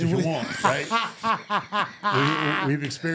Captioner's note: laughing